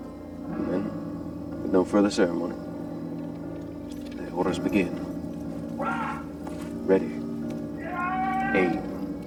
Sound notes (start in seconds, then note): 6.2 man shouting; 7.4 speaking in foreign language